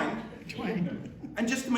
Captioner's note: chuckling